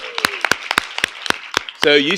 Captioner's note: applause